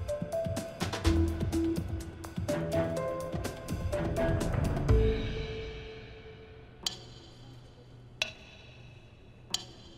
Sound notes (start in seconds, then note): 6.8 slow, rhythmic ticking